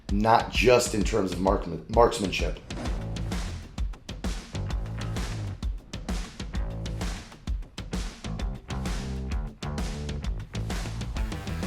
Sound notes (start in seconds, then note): 3.1 upbeat music; 5.3 blow smacking; 9.0 upbeat music